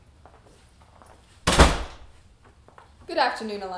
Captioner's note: door closing